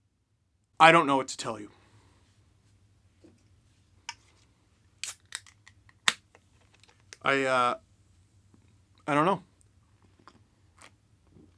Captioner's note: beer crack